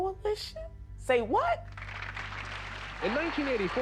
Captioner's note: crowd applauding